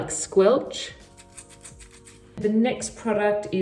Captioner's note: hair squelching